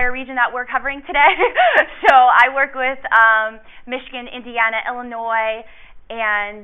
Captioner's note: laughs